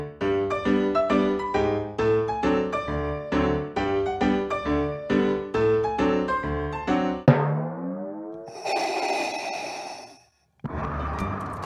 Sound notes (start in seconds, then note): 7.2 music cuts out; 8.6 Sound of Vader breathing